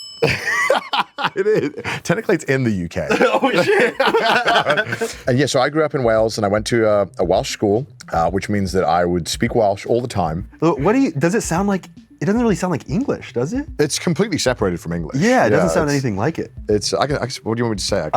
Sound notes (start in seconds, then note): 0.2 chuckles; 3.0 both laugh; 3.0 laughs